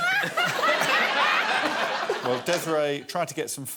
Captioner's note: laughter